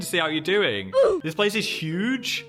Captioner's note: child grunts